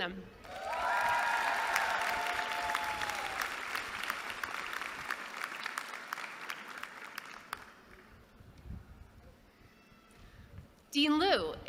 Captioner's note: applause